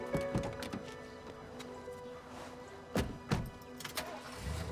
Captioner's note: truck doors click and thud; truck engine revving